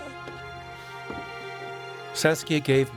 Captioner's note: footsteps sound